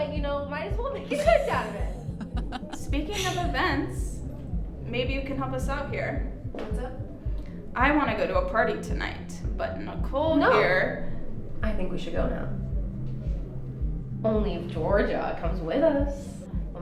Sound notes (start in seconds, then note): 1.0 Mae laughs